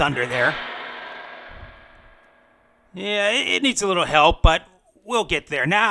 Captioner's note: thunder sounds